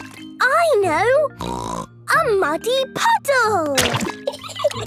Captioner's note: laughing